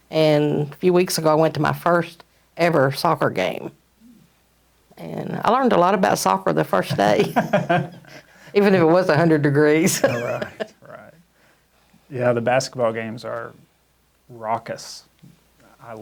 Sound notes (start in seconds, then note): 7.0 both laughing